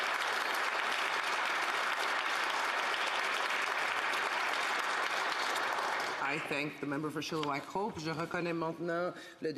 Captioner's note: applause